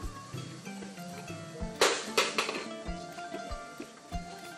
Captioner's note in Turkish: Telefon düşme sesi